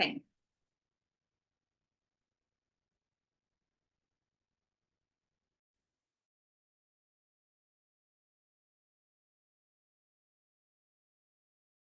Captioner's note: silence